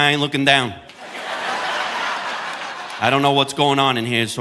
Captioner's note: audience laughing